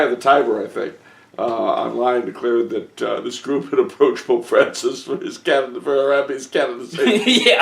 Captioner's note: breaking into laughter